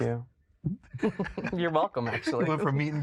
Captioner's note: both laugh